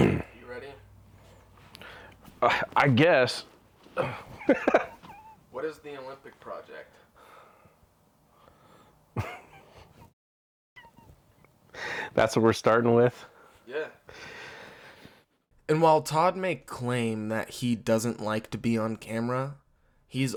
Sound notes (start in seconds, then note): 3.9 laughs; 9.1 laughing